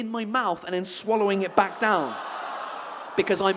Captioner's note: audience exclaims in disgust